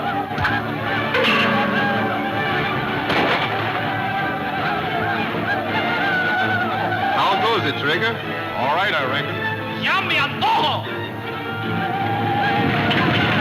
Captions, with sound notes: (thudding) (gunfire pops) - How goes it, Trigger? - All right, I reckon. (speaking in foreign language)